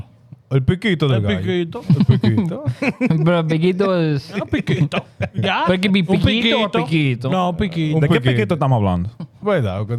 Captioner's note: speaking In Foreign Language